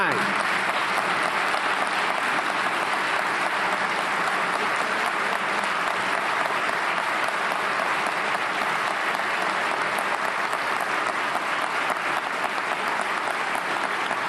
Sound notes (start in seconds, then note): 3.6 applause